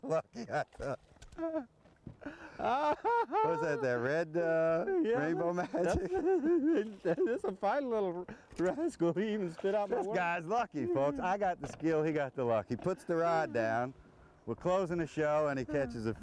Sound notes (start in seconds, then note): 0.0 laughter; 7.7 laghter